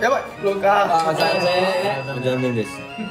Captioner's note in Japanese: 効果音 チーン